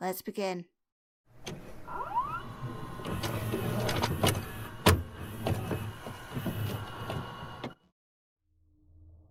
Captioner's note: VHS noises